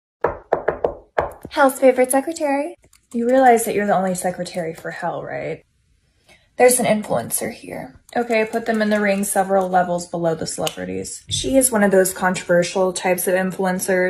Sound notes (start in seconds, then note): 0.2 knocks x5